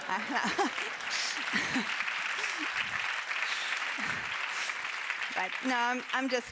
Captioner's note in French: applaudissements